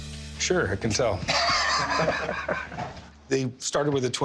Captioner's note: laughing